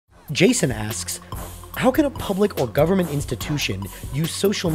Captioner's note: voiceover